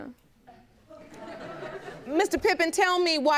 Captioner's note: audience laughs